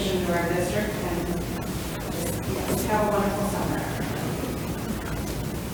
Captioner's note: speaks distantly